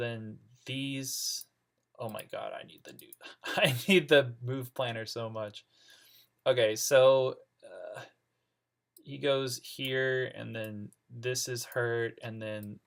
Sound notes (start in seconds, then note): 6.1 laughing